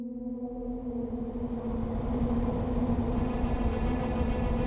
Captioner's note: haunting suspenseful music; insects chittering